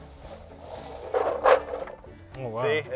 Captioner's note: cranberries tumbling